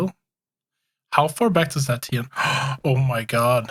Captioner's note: gasping